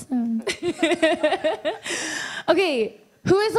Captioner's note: laughs